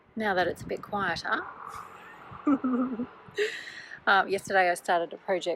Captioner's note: laughter